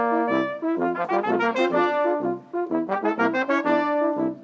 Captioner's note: none